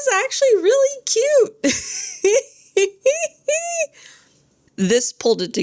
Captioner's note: laughs